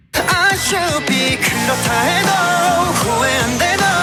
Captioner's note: A heavenly voice